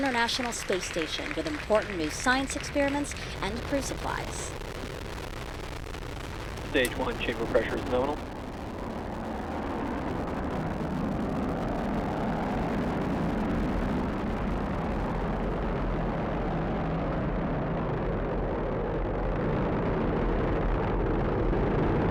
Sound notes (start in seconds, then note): 6.8 applause